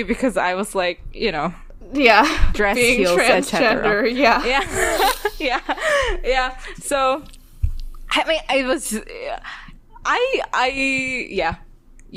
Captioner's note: laughs